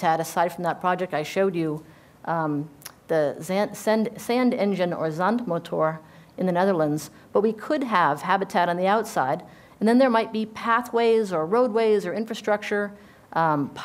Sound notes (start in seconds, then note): 5.2 speaking dutch